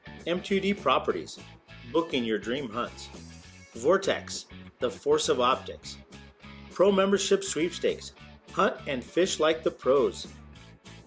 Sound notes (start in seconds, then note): none